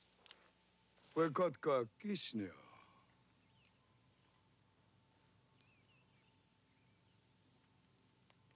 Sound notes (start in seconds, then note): 1.1 Tukenbheska speaks Indigenous language